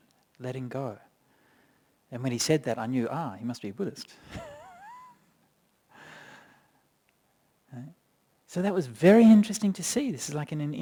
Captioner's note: chuckles